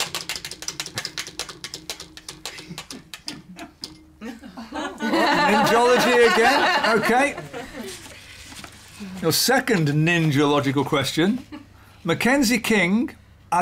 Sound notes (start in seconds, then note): 4.2 laughter